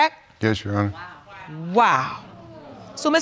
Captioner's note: audience exclaims